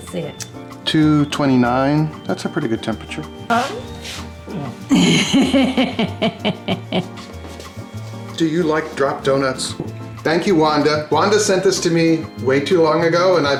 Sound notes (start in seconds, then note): 3.6 dog yawns; 4.8 woman laughs